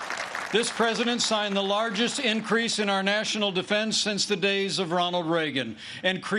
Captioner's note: applause